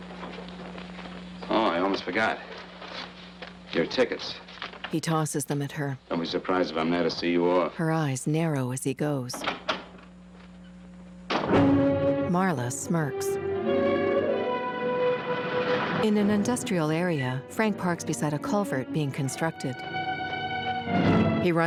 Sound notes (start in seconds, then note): 9.5 door clicks open, slams; 13.3 tense orchestral music